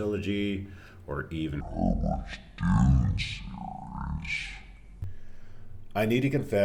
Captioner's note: slow-mo demonic voice